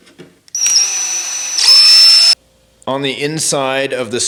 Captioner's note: drilling